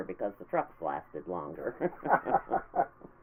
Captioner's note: laughing